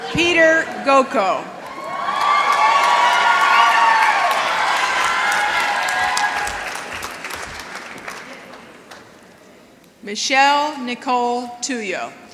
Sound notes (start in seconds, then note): 3.2 applause